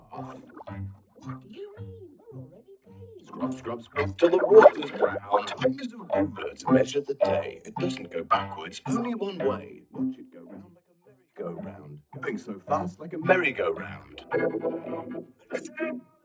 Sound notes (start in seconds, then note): 0.2 spooky voice; 6.2 dramatic voice; 11.2 soft voice